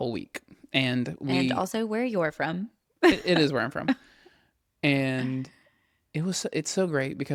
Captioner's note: laughs